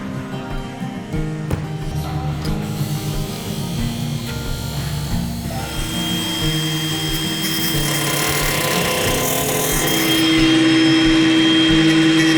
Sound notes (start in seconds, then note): 1.4 thump; 6.0 saw grinding